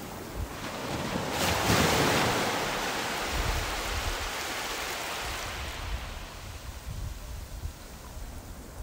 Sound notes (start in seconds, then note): 0.0 waves crashing